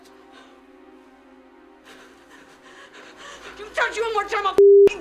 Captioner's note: panting